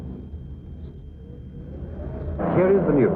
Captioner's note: wind howling